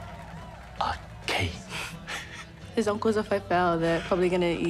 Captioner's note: chuckles